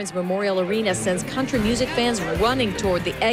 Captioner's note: sirens